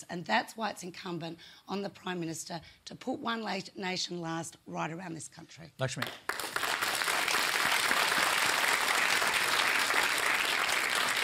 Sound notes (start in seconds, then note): 5.9 applause